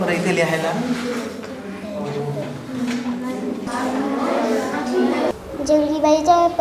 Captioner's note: discussing in low voice